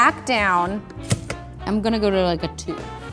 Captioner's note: clunking